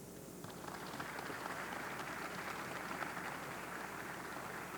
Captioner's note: audience clapping